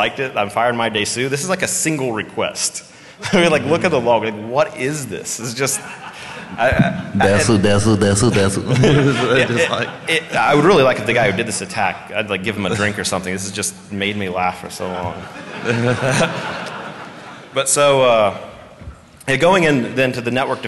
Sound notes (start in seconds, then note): 8.2 laughter